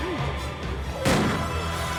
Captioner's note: gasping; gun firing